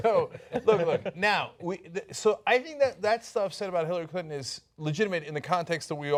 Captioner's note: laughter